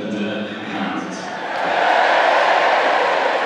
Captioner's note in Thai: เสียงเชียร์ของแฟนๆ